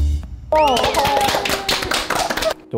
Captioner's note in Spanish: Aplauso